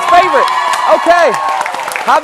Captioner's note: cheers and applause